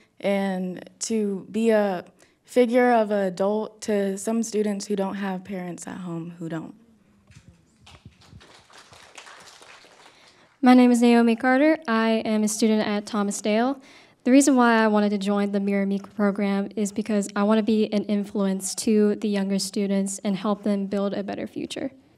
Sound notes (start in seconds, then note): 7.7 attendees clapping